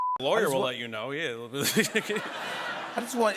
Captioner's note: laughter